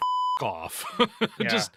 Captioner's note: beep